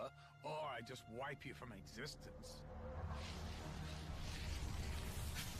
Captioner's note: whooshing